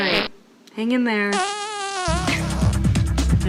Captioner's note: farts